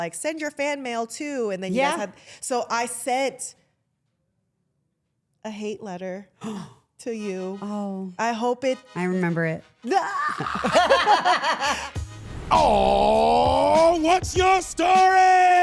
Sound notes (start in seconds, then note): 10.0 all laughing